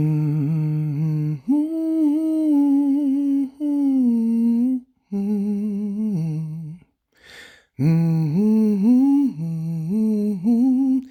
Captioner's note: high humming